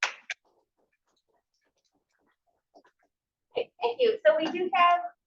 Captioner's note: audience applauds